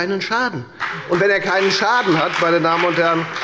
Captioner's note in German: Beifall bei der FDP